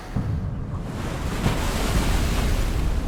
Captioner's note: wave crashes